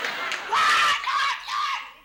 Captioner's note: screams